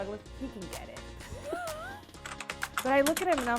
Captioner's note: laughs